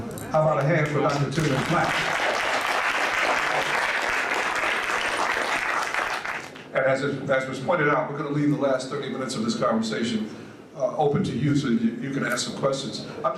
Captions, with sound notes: So, how about a hand for Dr. Timuel Black? [Audience applauds.] As was pointed out, we're going to leave the last thirty minutes of this conversation open to you, so you can ask some questions.